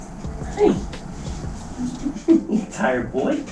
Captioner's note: laughs